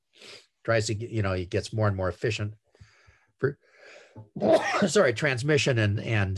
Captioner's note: sneezes